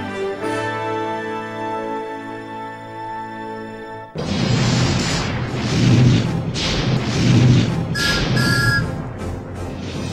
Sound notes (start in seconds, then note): 4.2 intense thunderstorm; 8.4 thomas whistling